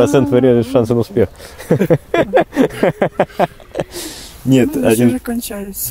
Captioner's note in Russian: смех